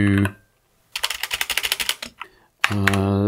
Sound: clicking

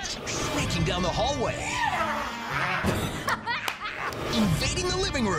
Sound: rasping

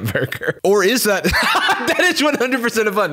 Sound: laughs

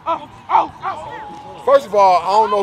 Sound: cheering

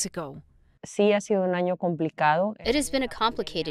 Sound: Governor Pavlovich speaking in foreign language

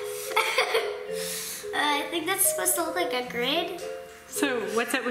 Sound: laughs

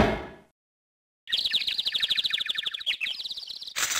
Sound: tweeting

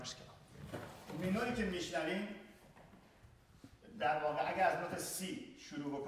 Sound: speaking in farsi

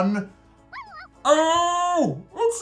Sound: puppy barks

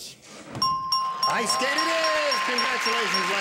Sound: bell dinging

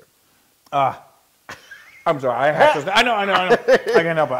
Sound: laugh

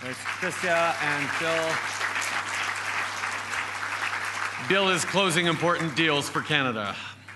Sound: applause

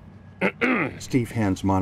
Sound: clearing throat

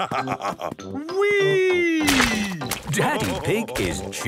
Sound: splashes

